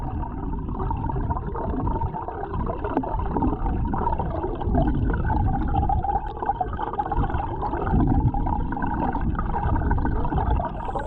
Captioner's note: water gurgling